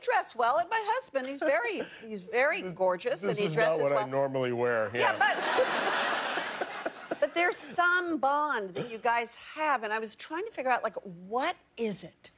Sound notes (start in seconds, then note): 5.0 laughter